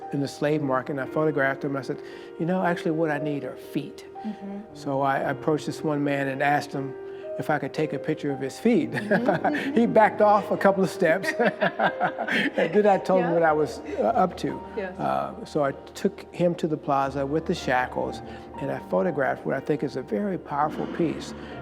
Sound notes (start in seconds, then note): 8.9 chuckles; 11.3 both laugh